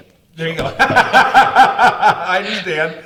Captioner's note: both laugh